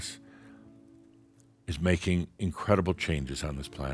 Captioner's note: none